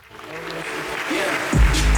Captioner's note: audience applauding; upbeat music